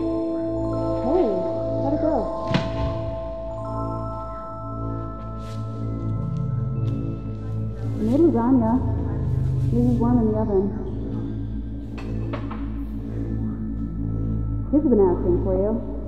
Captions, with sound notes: *distant distorted voice* I made lasagna. Yours is warm in the oven. Kids have been asking for you.